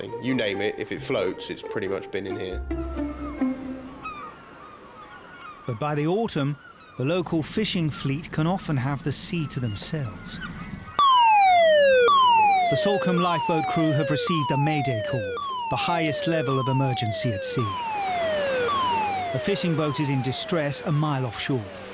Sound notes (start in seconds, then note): 4.0 seagulls squawk; 11.0 alarm blasts